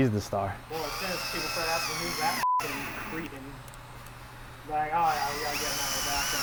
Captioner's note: drill whirring drowns out